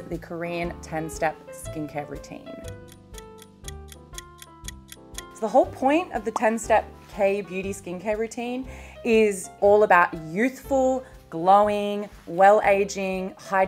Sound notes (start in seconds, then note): 2.6 clock ticks; 2.8 gentle music